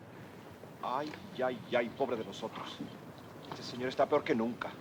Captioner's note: soldier speaks Spanish